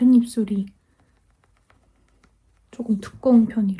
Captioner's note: tap tap tap